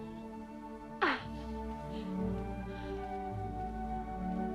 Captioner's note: Hundra laughs